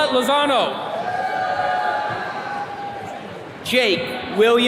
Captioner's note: attendees cheering